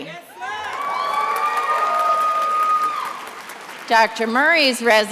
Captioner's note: attendees applauding and cheering